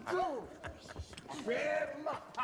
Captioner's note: laughs